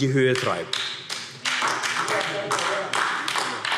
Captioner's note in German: Beifall AfD